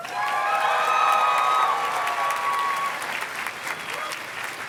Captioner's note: audience cheers and claps